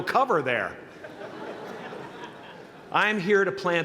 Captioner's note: laughter